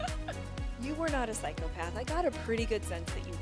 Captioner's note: laughing